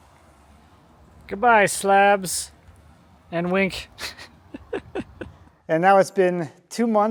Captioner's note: laughing